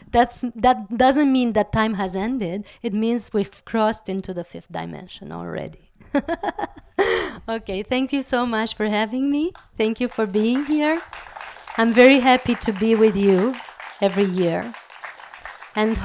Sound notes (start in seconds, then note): 6.1 laugh